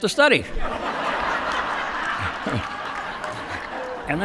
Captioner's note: laughter